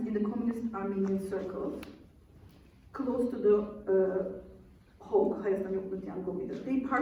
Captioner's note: non-english speech